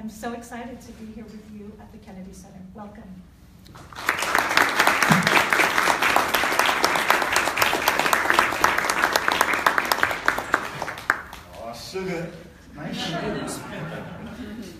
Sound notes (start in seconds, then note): 3.7 applause